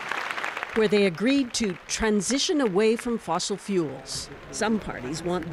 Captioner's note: applause